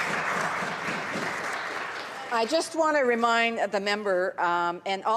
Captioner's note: applause